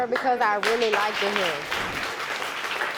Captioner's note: audience applauding